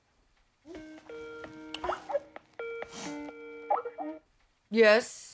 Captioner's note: computer beeping